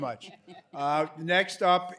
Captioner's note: laughter